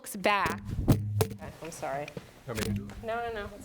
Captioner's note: microphone shuffles; murmurs